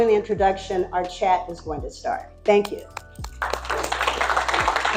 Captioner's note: applause